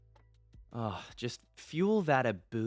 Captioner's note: sigh